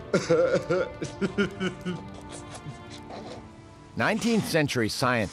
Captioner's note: <i> groans</i>; <i> laughing</i>